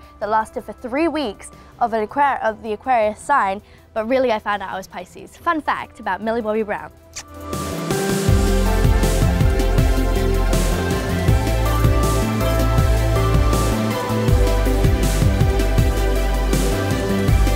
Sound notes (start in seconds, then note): 7.1 kissing; 7.9 upbeat music